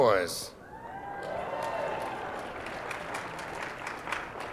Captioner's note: cheering